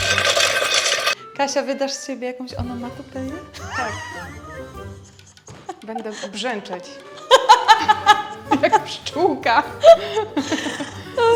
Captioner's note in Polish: śmiech